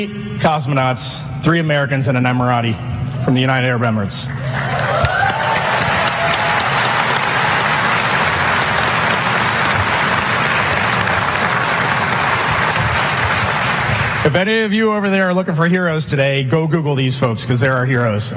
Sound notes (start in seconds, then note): 7.3 applause